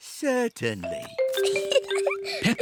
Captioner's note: giggles